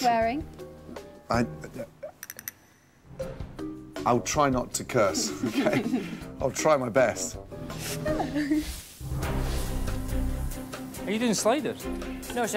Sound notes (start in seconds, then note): 5.2 laughing; 9.0 suspenseful music